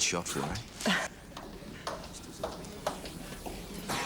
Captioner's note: laughing